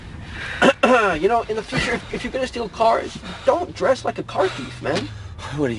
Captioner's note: clears throat